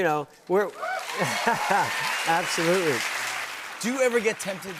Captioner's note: cheers and applause